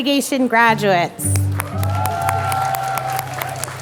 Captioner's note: applause